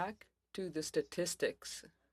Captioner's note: speaking French